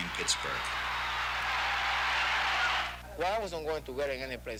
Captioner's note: crowd cheering